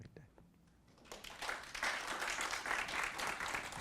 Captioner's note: clapping